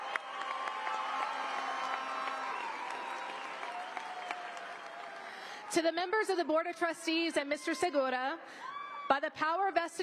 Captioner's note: applause